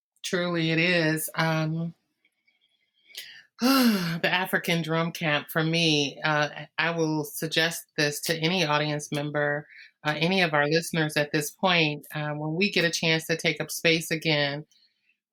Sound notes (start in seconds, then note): 3.6 sigh